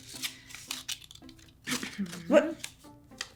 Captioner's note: paper shuffling